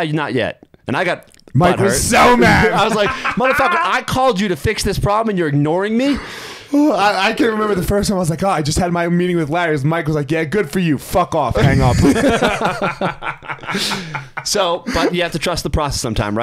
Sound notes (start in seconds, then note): 1.8 laughing; 11.6 both laughing